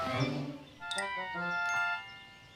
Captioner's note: whizzing